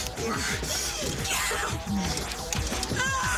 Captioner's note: Jodie screaming